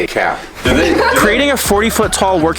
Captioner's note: all laugh